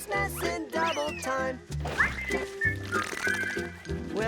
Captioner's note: whistling